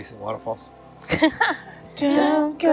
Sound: woman laughs

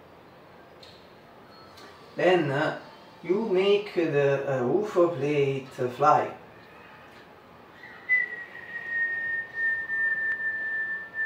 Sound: whistle

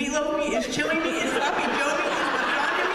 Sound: laughter

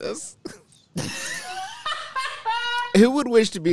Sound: laughs

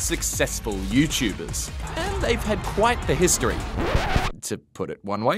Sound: record scratches

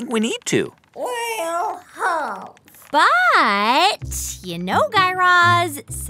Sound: voice echoing inside cannon

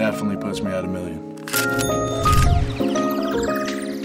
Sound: ka-ching

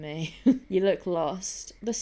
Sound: laughs

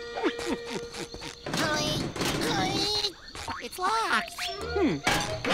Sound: grunting

